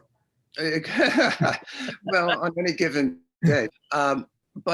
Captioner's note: laughing